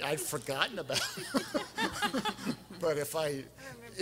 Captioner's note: everyone laughing